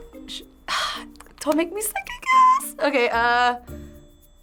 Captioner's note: sighs